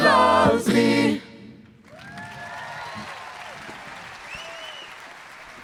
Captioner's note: applause